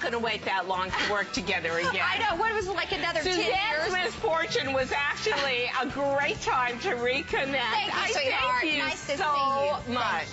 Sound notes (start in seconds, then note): 1.7 laughter